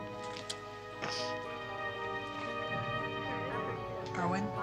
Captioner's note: yawning